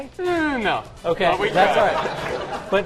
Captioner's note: laughter